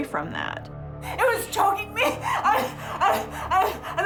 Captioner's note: stuttering